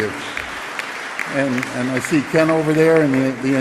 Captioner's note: applause